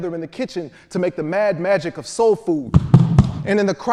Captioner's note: feet stomping